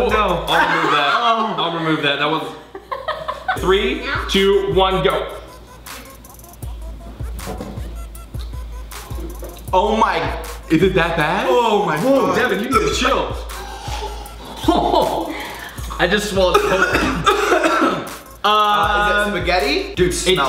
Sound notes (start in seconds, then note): 0.0 they laugh; 16.3 father gags